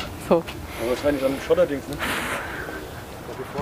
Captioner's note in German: Erschöpftes Ausatmen